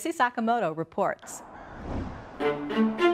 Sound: crow cawing

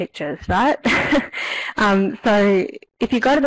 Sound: laughs

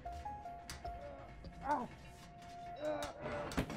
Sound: Tariq groaning

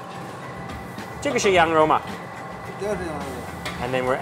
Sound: speaks in Chinese

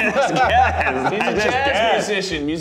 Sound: laughing

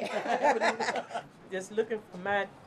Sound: laughter

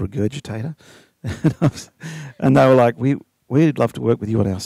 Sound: laughs

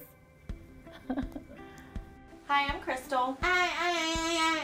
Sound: laugh

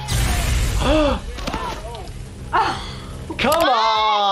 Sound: sound of electric zapping; both gasping

